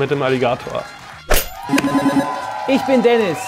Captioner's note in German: Jubel